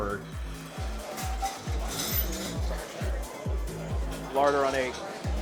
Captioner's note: patrons chattering